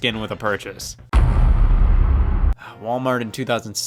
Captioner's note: heavy thud